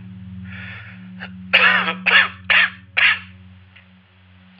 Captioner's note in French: Quinte de toux